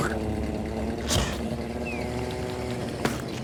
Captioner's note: spitting